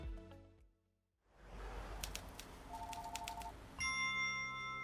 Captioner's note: phone ringing; typewriter clanking; bell dinging